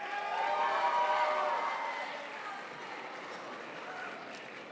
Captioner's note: crowd applauds